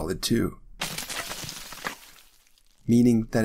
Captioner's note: ice cracking